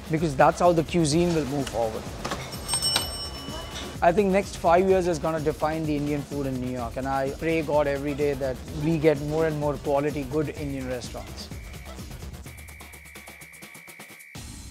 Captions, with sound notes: because that's how the cuisine will move forward. (bell dinging) I think next five years is gonna define the Indian food in New York. And I pray God every day that we get more and more quality, good Indian restaurants. (lively music)